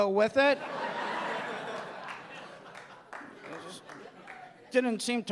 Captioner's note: audience laughing